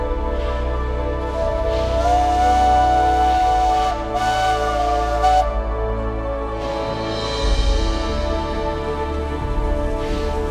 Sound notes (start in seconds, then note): 3.5 train whistles; 7.5 uplifting music